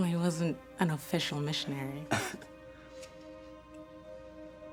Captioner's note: laughs